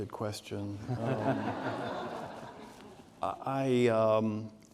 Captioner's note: audience laughing